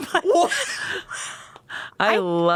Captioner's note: everyone laughs